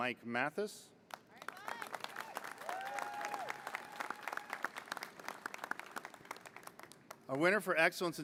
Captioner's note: applause